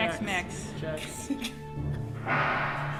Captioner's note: giggles